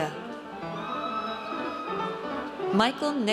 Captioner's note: audience cheers